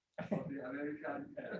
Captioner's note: laughter